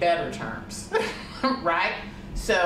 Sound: laughs

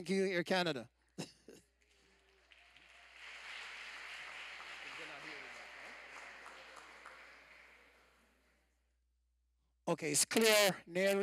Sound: applause

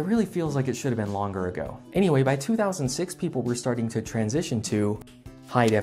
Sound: snap

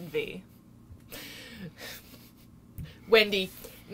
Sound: light laughing

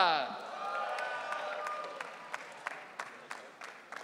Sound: audience cheering

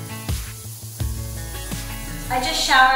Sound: water running

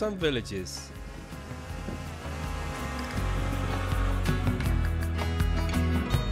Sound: drone landing

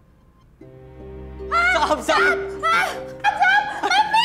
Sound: shouts in fear

